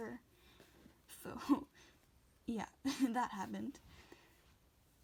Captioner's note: laughing